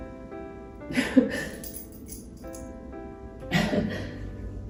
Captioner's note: gentle piano music continues; chuckles